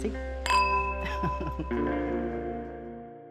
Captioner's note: chuckles